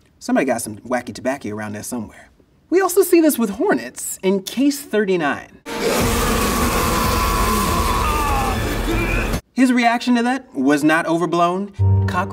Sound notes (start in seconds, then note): 5.7 hornets buzzing; 5.7 man shouting